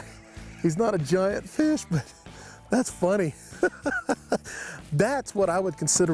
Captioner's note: chuckles